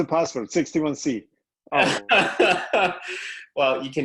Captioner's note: laughter